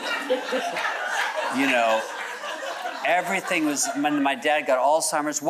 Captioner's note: audience chuckles